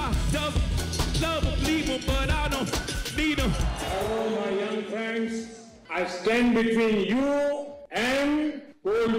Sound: cheers and applause

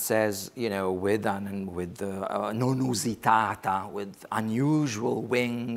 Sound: speaks foreign language

